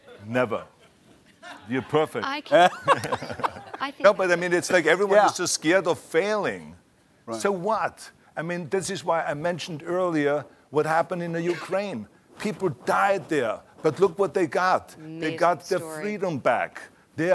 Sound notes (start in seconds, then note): 2.5 laughter